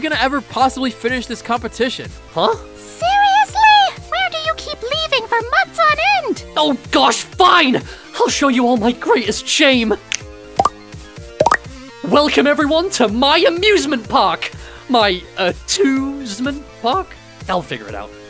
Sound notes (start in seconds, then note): 9.6 snaps fingers; 11.4 popping sounds